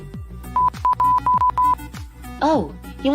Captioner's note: inquisitive beeping